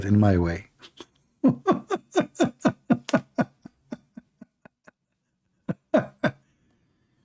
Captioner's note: Ketawa